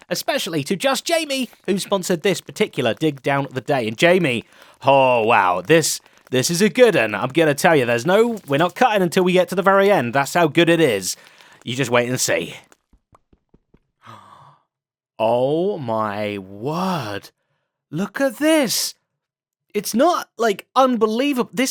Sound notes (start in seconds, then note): 14.0 gasps